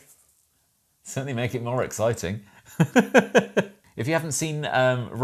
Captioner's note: laughs